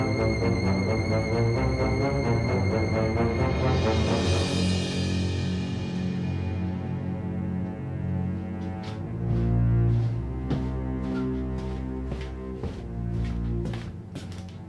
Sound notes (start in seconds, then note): 10.9 feet stepping